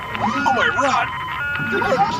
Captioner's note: dial up sounds